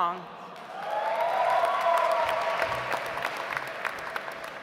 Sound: audience applauds

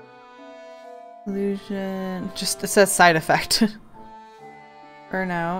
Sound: laughs

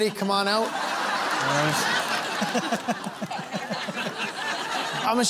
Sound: laughter

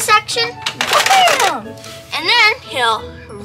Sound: makes car sound

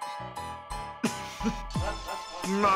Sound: laughing

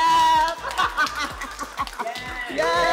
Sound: laughs

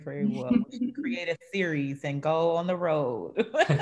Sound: laugh

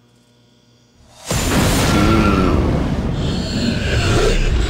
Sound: mummy growling

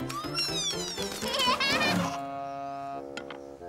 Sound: laughing

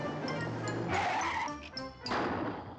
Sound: tires screech; engine dies

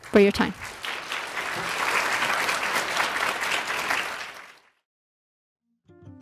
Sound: applause

